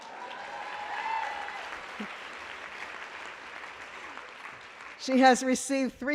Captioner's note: applause